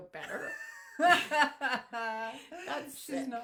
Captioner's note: both women laughing